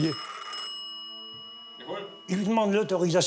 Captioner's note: phone rings